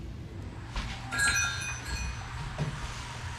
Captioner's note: doorbell chimes